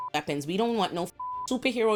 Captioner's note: beep